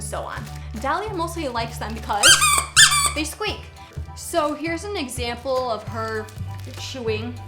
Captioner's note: squeaky squeaky!